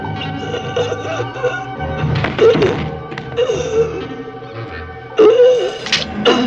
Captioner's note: shallow breathing